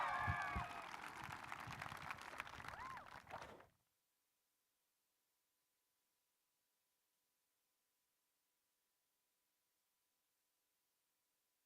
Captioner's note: applause